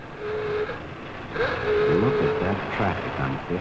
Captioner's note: horns honking